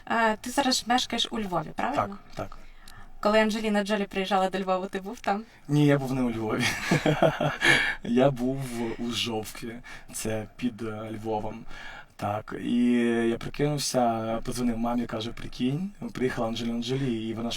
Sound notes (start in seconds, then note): 6.6 loughing